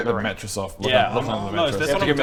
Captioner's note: whine